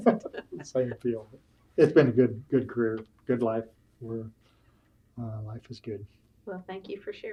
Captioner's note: laughter